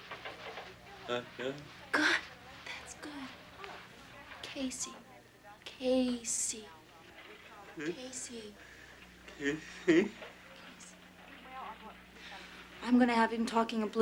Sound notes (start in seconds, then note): 1.0 Casey laughs